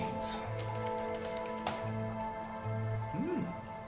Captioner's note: typing; hard keystroke; amused whine